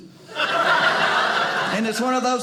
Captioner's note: audience laughing